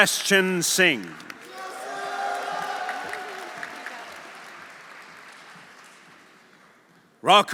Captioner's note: audience applauding; audience cheering